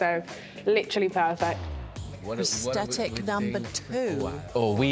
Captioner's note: none